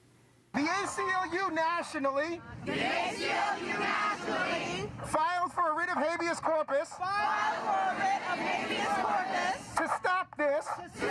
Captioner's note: echoed by the People’s Mic